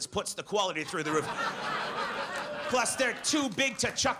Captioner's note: audience laughs